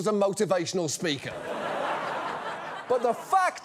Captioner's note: laughter